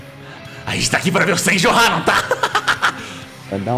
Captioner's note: laugh